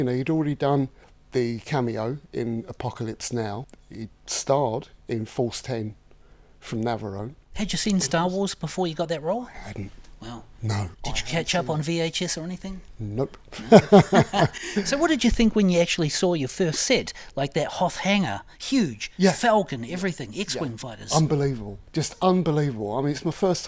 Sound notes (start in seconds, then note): 13.5 laughs